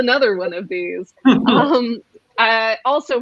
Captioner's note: laughs